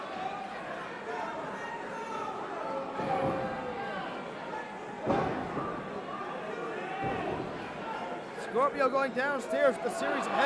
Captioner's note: crowd chatter